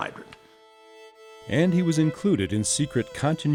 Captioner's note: voiceover